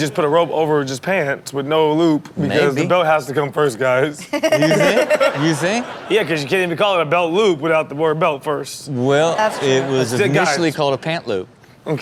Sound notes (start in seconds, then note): 4.2 Chanel laughs